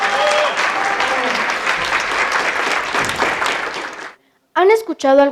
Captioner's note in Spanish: Aplausos